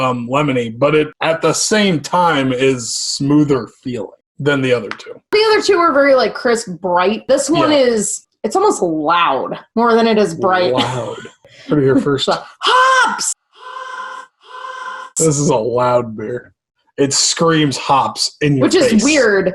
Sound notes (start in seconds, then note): 13.1 echoes